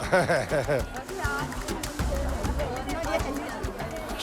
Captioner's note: father laughs